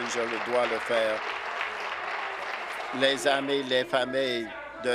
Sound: applause

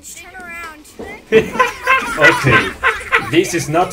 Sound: laughing

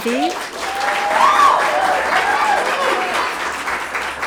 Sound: audience applauding

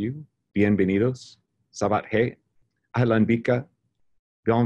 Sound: speaks foreign language

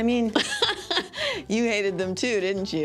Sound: laughs

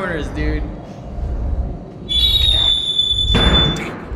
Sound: shrieking noise

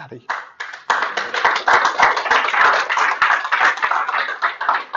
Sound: applause

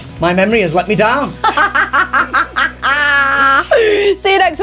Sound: laughs

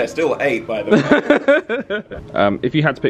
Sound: laughs

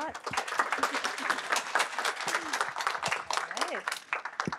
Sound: applause

